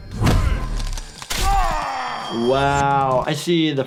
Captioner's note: bones cracking